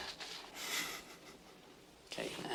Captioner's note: chuckles